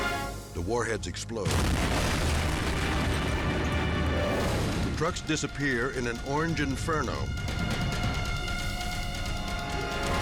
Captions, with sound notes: The warheads explode. (explosion blasting) The trucks disappear in an orange inferno.